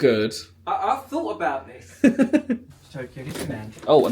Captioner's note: giggling